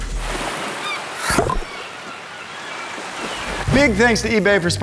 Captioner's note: seagulls cawing